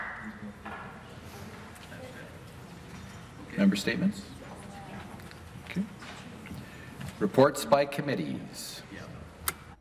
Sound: some Applause

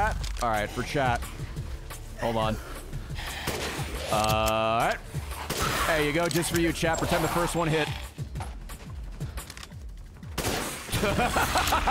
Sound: laughs

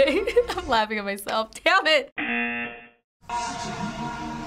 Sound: giggles; buzzer

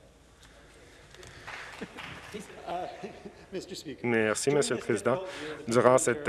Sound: some Applause

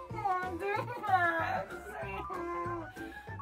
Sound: whines

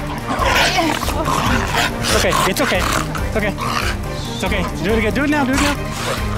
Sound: grunt

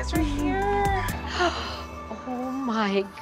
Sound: sighing

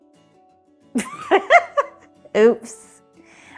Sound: laughs

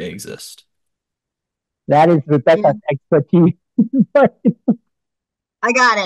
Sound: laughs

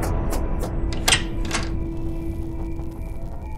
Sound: door unlatches

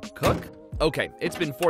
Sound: hood slamming

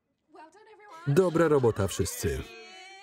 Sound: all laughing

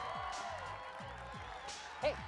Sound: cheering

